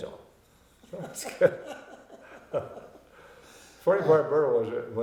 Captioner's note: both laughing